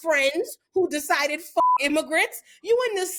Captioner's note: beep